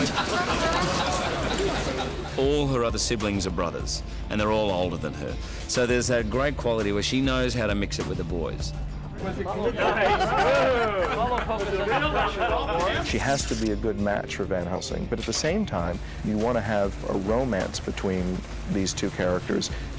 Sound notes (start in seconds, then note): 0.0 men laughing; 9.6 laughing